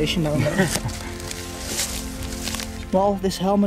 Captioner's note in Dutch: lacht